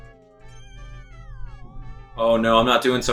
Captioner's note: instrumental music; gaming sounds